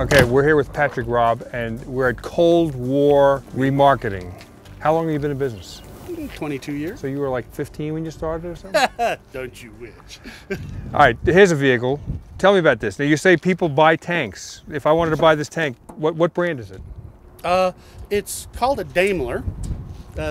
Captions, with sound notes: Okay, we're here with Patrick Robb, and we're at Cold War Remarketing. How long have you been in business? - 22 years. - So you were like 15 when you started or something? - (Laughs) Don't you wish. - Alright, here's a vehicle. Tell me about this. Now, you say people buy tanks. If I wanted to buy this tank, what brand is it? - Uh, it's called a Daimler.